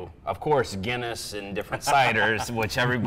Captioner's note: laughs